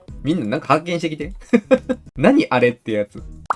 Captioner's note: laughter